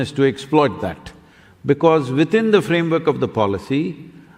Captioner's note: speaks in German – not transcribed